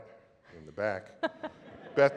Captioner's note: laughter